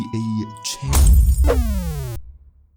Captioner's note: punch